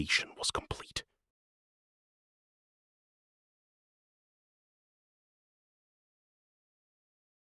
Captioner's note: silence